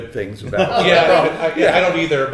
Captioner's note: everyone laughing